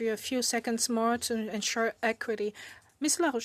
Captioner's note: speaking French